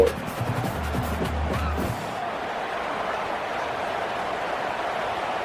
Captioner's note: crowd Noises